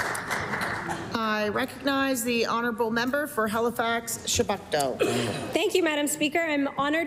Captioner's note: applause